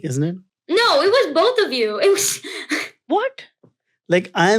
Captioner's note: chuckles